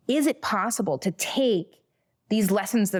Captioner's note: none